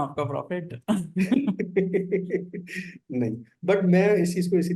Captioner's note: laughs